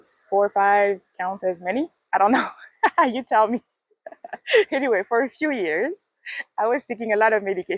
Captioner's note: laughs